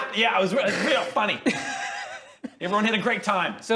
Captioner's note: cold-hearted laughs